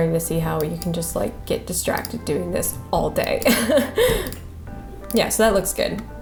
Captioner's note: laughs